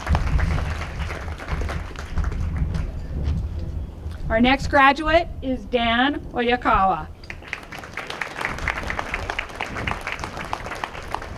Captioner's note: applause